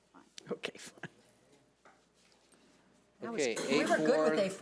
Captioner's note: chuckles